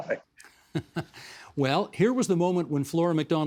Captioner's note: laughing